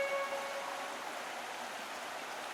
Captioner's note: stream of water